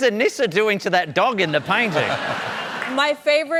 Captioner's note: laughter